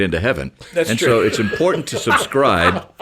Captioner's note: laughs